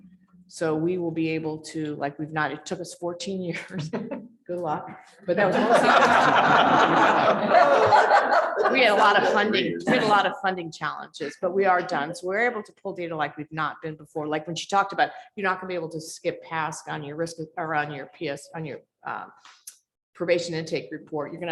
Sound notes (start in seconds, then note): 5.4 laughter